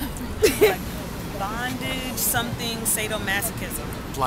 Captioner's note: laughs